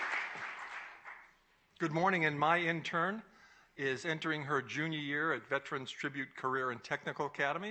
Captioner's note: applause